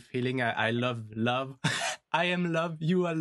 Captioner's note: laughs